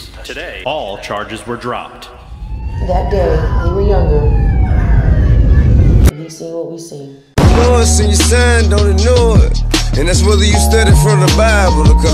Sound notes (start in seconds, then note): 2.2 sirens blaring; 7.4 gunshot blasting